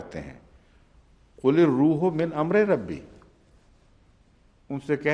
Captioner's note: Arabic